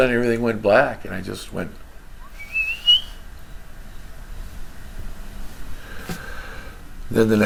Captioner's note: whistling, to describe passing out